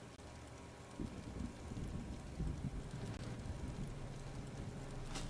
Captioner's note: Trog foot shuffling